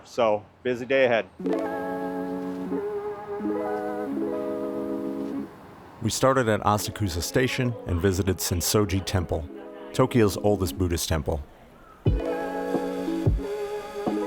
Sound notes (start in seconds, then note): 5.9 voiceover